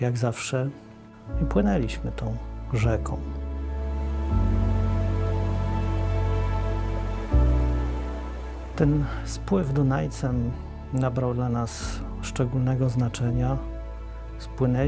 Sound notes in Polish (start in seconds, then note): 4.4 szum rzeki